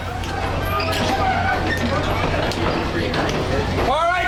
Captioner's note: metal clanking